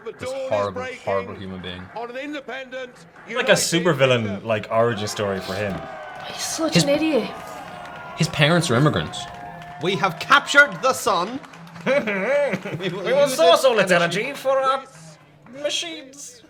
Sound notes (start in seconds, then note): 6.0 crowd cheers; 11.7 laughs